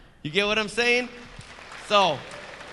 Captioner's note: audience clapping